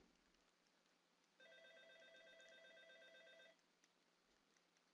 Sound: phone ringing

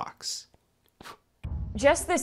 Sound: sound of blowing out match

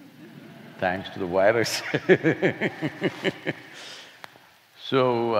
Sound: laughs

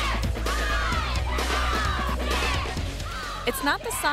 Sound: loud cheering; voiceover

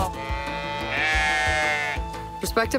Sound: mooing

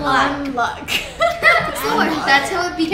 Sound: laughing

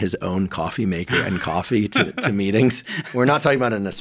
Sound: laughs

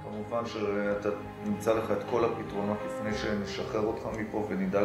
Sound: doctor speak foreign language

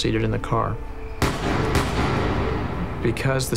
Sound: gunshots

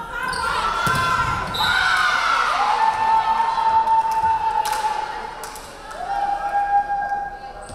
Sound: referee whistling; crowd cheering

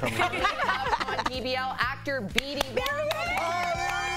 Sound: laughter

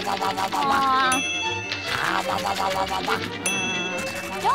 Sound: chomping

